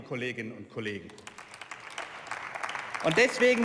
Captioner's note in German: Beifall